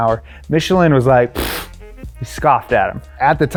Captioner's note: scoffs